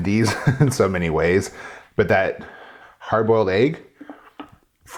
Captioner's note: laughs